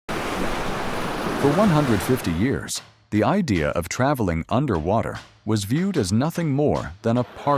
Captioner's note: water flowing